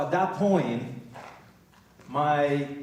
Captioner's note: none